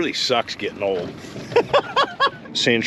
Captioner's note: chuckling